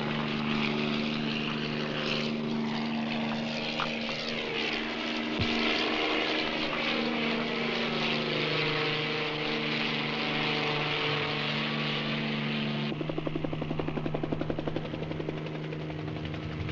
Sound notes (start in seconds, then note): none